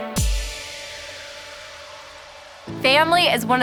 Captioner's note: whoosh